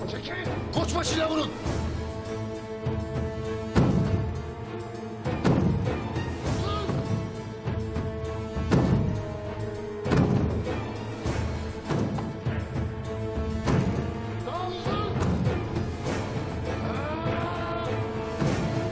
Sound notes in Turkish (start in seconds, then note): 3.8 Kapı vurma sesleri; 10.0 Kapı vurma sesleri; 12.3 Müzik devam